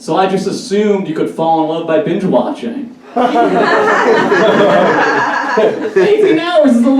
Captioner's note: audience Laughs